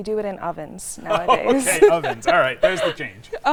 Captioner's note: laughs